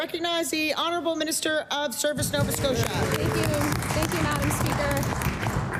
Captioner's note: applause